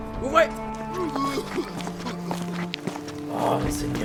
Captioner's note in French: Tousse